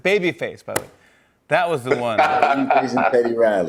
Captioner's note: laughter